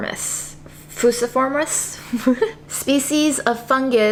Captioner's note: laughs